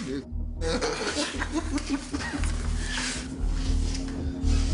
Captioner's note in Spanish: Risas